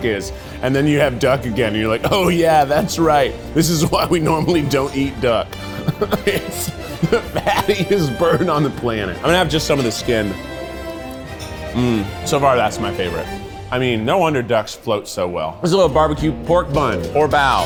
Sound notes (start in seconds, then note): 5.6 laughs